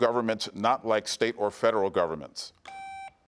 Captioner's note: buzzer beeps